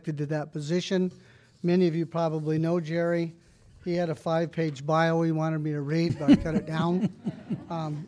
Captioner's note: laughter